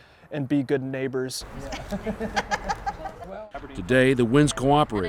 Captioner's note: laughing